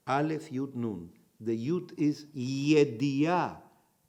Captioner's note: in Hebrew